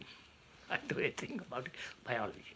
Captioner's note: laughs